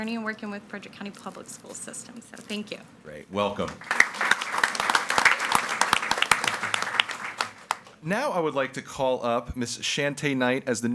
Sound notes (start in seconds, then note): 3.5 audience applauding